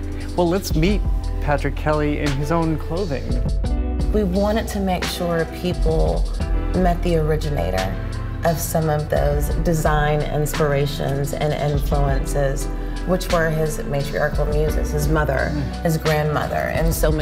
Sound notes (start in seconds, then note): none